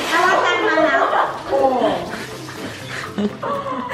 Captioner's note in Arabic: يضحك